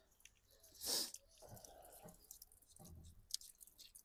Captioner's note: snorting